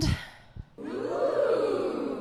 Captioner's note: audience "oohs"